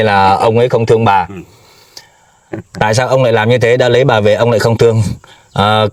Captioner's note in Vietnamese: khịt mũi